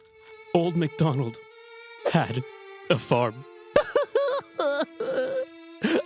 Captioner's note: cries